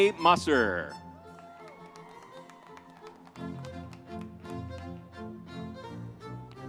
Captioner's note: vibrant music continues; audience cheers